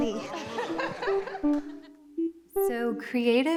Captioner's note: both laughing